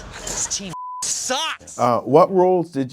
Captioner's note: beep